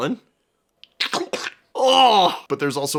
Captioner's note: squelch